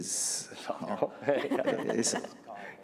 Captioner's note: laughter